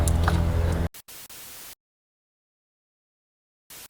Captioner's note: static